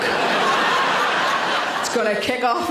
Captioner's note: audience laughs